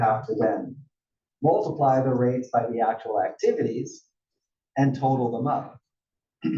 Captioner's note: cough